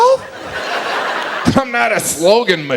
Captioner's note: audience laughs